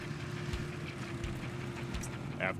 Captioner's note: snowmobile engine idling